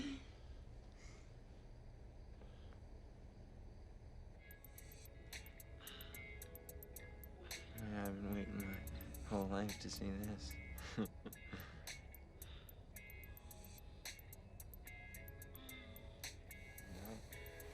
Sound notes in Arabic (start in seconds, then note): 9.9 يضحك; 11.4 تنهدات